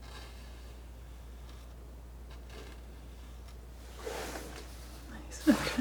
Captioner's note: scratching